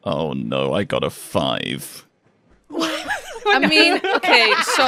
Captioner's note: laughter